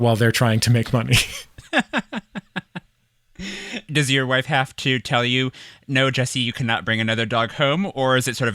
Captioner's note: laughs